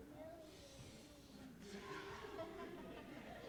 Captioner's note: both inhales deeply; audience laughing